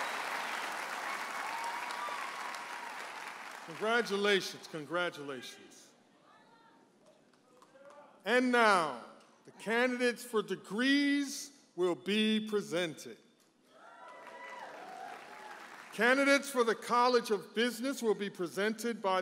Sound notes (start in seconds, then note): 13.8 audience applauds and cheers